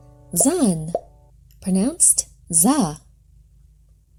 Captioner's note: objects popping